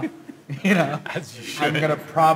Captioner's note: laughs